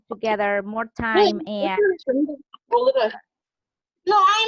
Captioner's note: murmurs